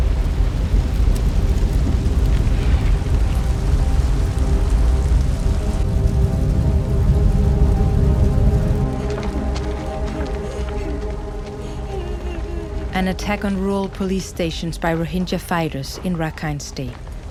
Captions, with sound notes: (crackling fire) (crying and sobbing) An attack on rural police stations by Rohingya fighters in the Rakhine region